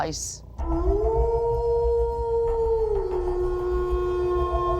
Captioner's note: wolf howling